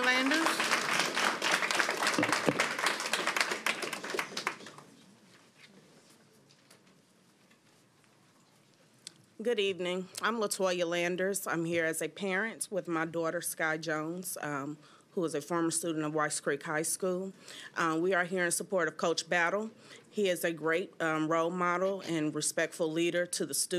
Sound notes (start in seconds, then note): 4.6 applause